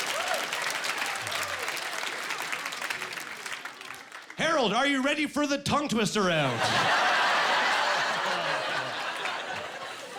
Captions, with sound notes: (Applauding) "Harold, are you ready for the tongue-twister round?" (Laughing)